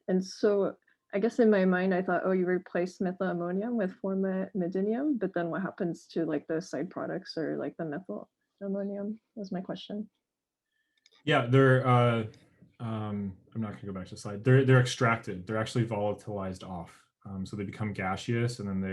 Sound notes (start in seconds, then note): 14.1 murmurs